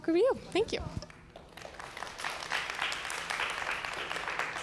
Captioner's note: applause